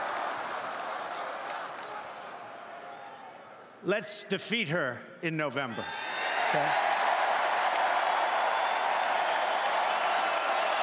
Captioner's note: crowd chanting